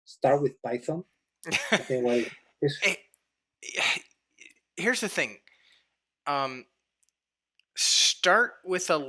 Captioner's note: chuckles